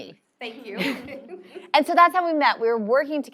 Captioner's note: laugh